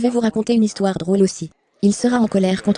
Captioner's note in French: acclamation de la foule